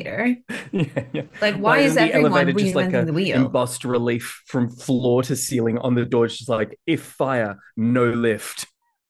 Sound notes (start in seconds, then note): 1.4 laughs